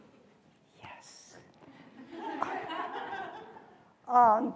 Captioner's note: laughter